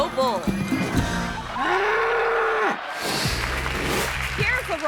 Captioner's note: bull bellowing; screen whooshes